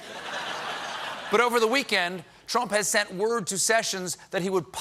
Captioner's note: laughter